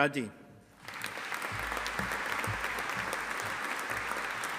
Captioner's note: audience applauding